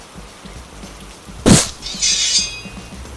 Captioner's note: metallic noises